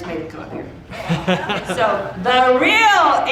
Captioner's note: audience laughing